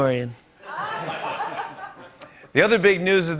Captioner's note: laughter